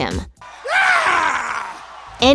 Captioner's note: the scream